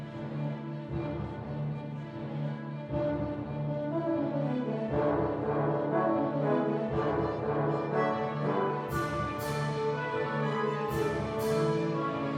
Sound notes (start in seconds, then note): none